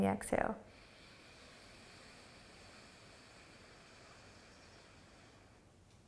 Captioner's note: inhaling and exhaling